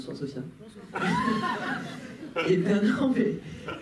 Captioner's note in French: rires